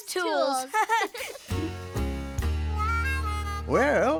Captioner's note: chuckling